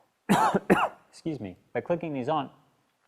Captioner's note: cough